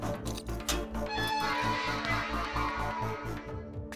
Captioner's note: Door opens